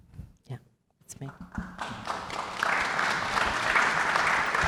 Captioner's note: audience applauds